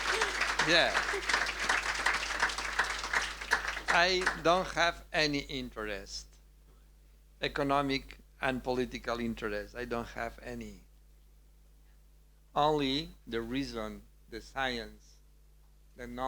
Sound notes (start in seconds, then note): 2.1 audience applauding